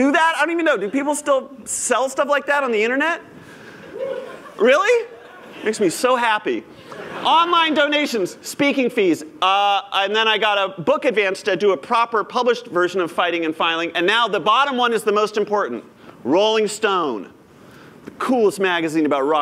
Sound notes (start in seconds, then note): 3.4 cheers; 6.7 laughter